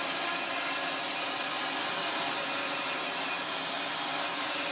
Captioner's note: saw whirring